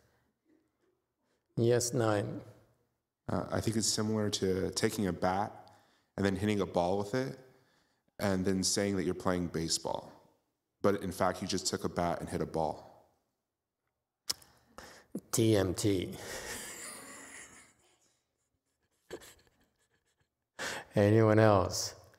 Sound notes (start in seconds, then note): 16.2 laughs